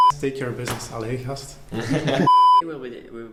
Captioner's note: chuckling